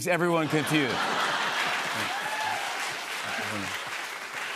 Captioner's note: laughter